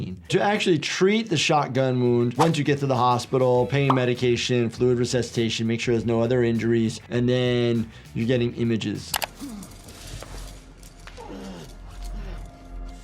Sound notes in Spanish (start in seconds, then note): 9.0 Joel gruñendo